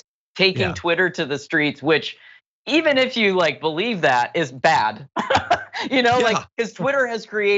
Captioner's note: laugh